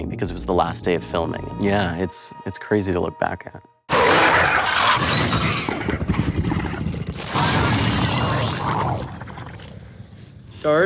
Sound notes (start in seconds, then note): 3.9 monster growling; 7.1 monster gurgling